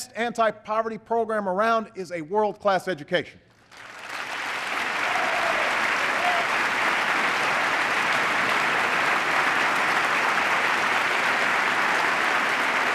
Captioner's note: applause